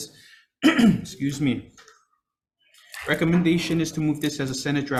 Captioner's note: clears throat